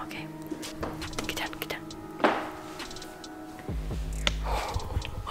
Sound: breathes

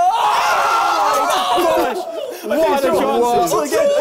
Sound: group cheering

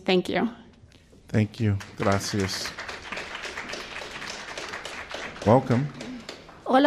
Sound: applause

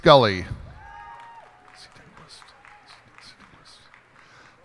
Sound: cheers and applause

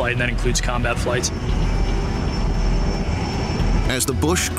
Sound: intense music; plane whizzing

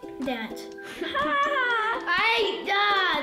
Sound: laughing

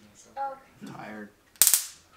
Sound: zap

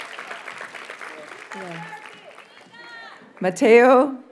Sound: audience cheers and applauds

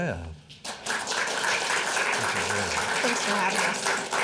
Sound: audience applauding

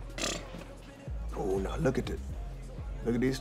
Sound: scoffs

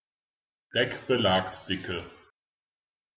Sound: fast Pronunciation

